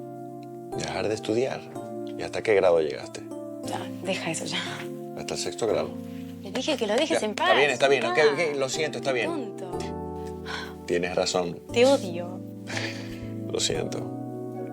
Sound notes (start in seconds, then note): 10.2 exhaling; 12.5 laughing; 14.2 soft Music Playing